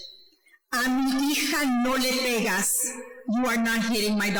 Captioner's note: speaking foreign language